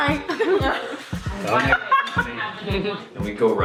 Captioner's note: laughter